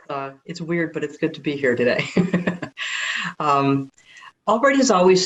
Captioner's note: laughs